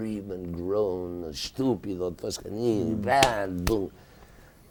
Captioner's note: slapping